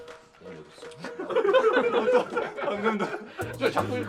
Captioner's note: bursting into laughter at the camera director’s demonstration